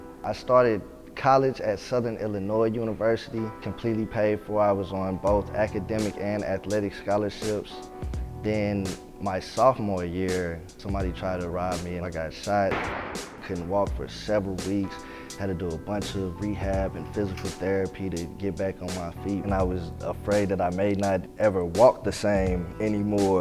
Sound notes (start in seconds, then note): 12.7 gun shot